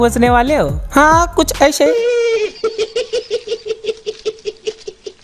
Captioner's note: laughs